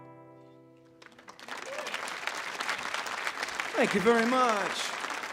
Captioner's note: audience applauds